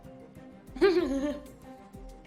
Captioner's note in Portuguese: risada